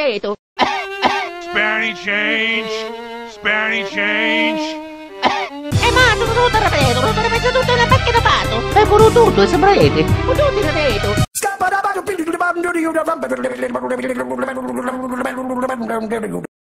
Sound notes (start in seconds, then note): 0.6 cough, cough; 4.2 cough